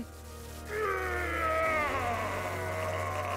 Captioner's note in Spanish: gruñe